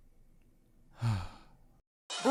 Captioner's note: sigh